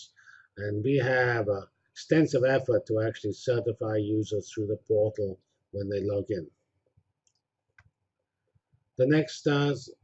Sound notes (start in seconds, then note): 6.5 pause